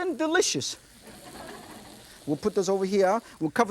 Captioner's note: audience laughs